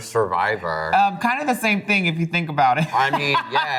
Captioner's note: laughs